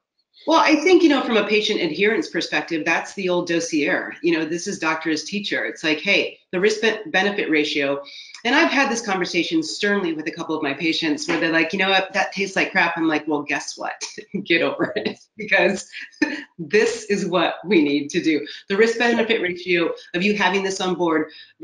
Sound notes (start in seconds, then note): 14.6 laughs